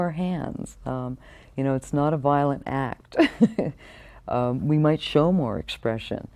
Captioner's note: laughing